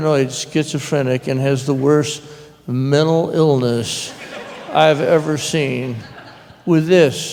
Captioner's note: subdued laughter